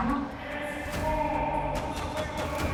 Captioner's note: shouting